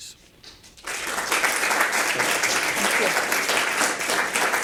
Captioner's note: audience applauding